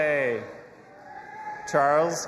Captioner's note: audience applauding and cheering